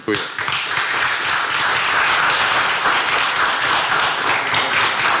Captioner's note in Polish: oklaski